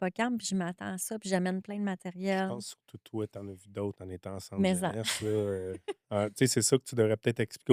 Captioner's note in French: rires